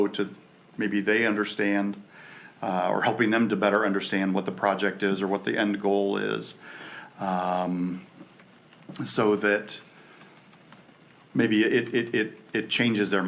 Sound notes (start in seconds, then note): none